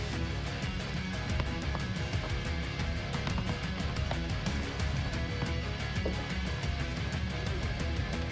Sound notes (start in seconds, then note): 1.5 hammer thudding